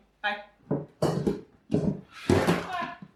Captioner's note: sounds of things falling